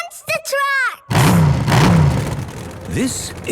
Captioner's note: engines revving